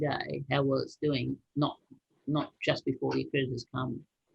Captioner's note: speaking faintly